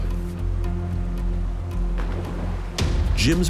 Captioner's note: splashing